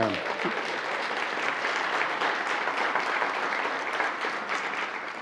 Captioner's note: attendees applauding